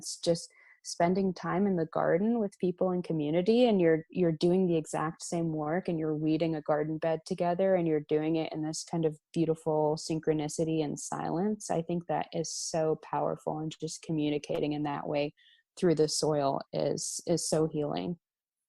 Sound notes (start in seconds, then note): none